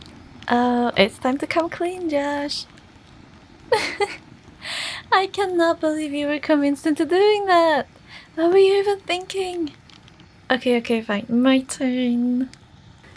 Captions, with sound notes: Oh, it's time to come clean Josh. (Laughter)… I can’t believe you were convinced into doing that. What were you even thinking? Okay, okay, fine. My turn!